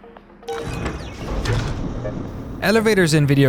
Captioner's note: beeping